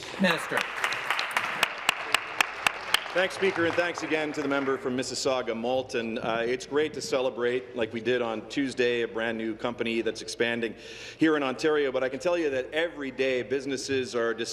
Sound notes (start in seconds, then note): 4.5 applause